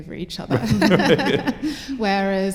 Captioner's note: laughter